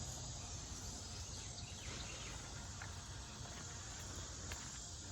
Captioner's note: birds and crickets